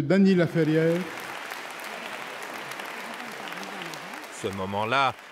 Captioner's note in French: applaudissements